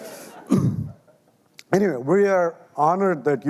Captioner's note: audience laughing lightly